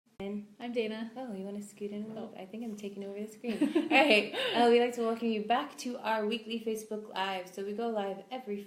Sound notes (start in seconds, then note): 3.5 both laugh